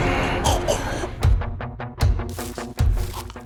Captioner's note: choking; tense, suspenseful music